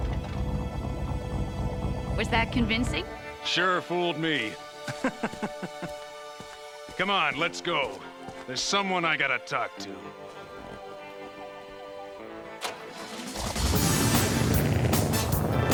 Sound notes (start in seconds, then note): 4.8 laughing; 12.6 engine revving